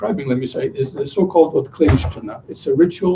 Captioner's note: non-english speech